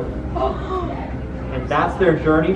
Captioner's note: children gasp